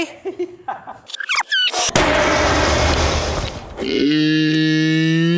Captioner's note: giggles; rewinding sounds